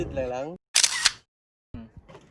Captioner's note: camera shutter